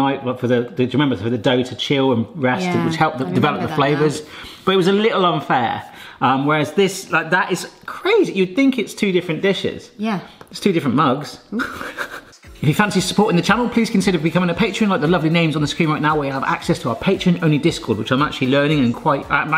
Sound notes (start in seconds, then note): 11.5 snickers